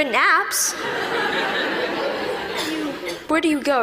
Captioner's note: laughter